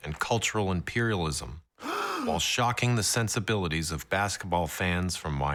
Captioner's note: deep gasp